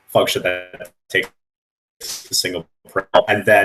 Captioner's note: static